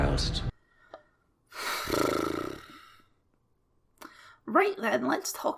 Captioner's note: sigh